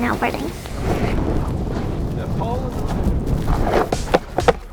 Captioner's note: wind howls; upbeat music